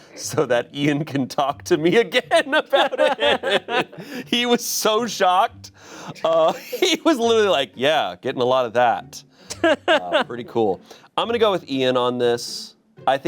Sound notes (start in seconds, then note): 2.3 laughing; 9.5 laughs